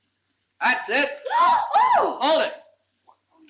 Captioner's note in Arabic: يصرخ